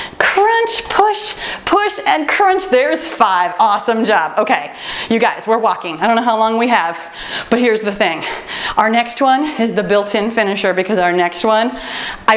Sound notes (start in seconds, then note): none